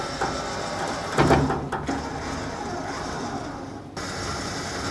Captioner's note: engine whirring; clanking; engine whirring